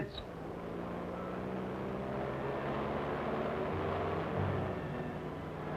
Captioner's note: engine rumbling; gentle music